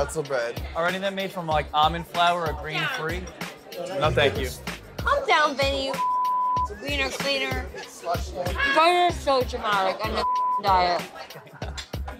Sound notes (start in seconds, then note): 5.9 beep; 10.2 beep